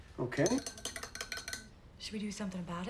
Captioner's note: spoon clinking